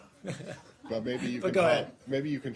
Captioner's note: laughter